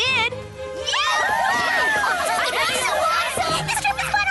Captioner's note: cheers